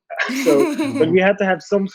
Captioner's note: laughs